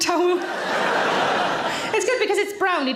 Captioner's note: audience laughing loudly